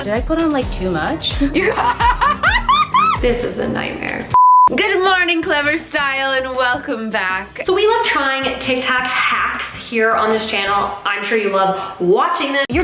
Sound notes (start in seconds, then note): 1.3 laughing; 4.3 beeping